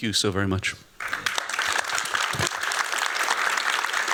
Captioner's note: applause